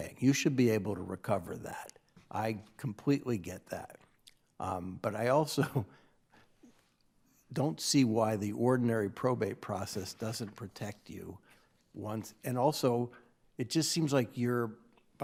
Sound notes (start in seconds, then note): 5.6 chuckling